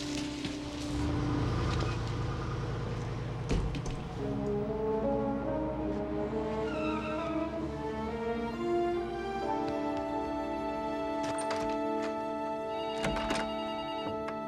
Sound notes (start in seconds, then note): 1.4 engine starting; 5.7 tires squealing; 12.6 phone ringing